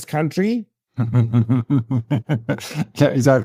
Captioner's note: laughing